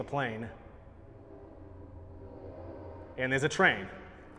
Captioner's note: train passing